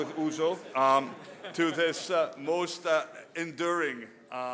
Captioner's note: laughter